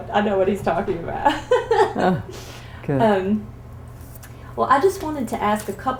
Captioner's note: laughter